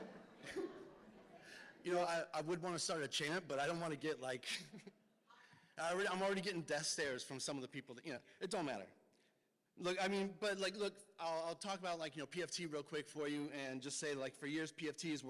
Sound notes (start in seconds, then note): 0.0 laughs; 4.4 laughs